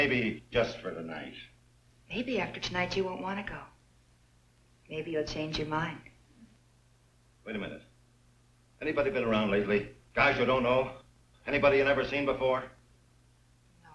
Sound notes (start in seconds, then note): none